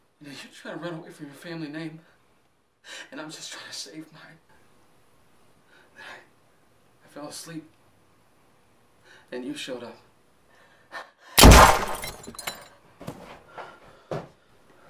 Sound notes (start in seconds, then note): none